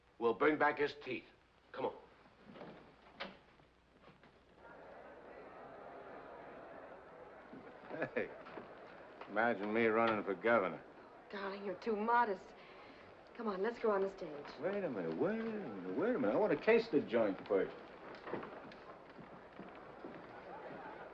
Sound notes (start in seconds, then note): 2.4 door opens